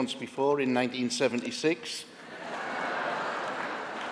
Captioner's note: applause